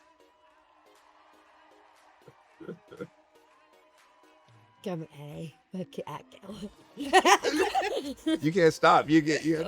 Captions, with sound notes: Go on Ellie Work it out, girl *They laugh* You can’t stop